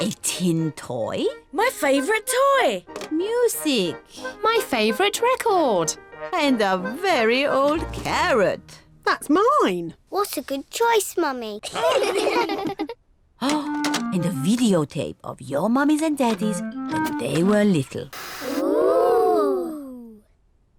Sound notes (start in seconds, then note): 11.7 all laugh